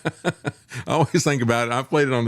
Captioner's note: laughs